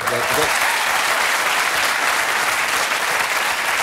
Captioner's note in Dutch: applaus